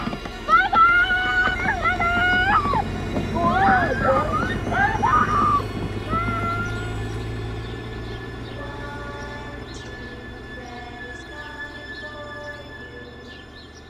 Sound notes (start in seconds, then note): 5.6 Nancy cries out